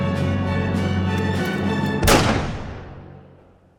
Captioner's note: gunshot